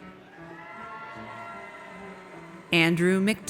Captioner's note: audience cheers